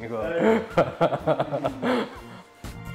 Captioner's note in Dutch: hard gelach